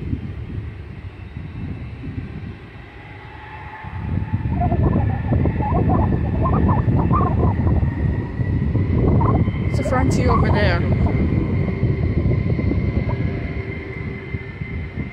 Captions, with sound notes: [blowing continues] There's a Frontier Over there.